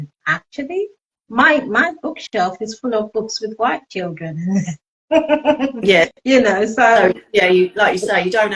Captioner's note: laughing